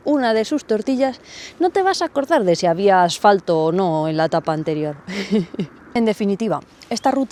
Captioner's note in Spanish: risas